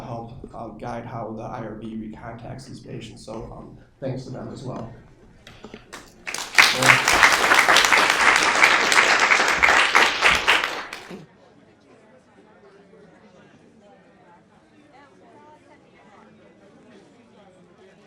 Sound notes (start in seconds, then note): 5.9 audience clapping; 11.0 students murmuring